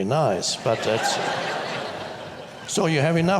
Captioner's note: audience laughs